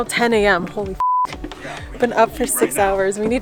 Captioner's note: beep